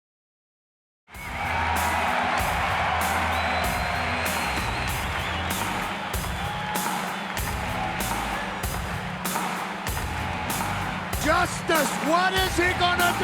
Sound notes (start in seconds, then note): 1.0 crowd cheering; 1.0 upbeat music